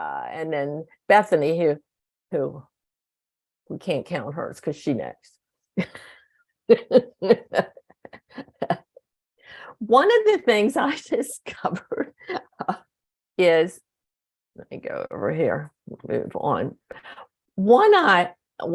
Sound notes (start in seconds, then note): 6.8 laughs